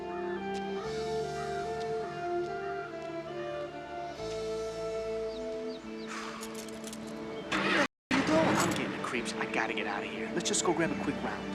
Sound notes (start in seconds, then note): 5.9 sighs; 7.4 car engine starts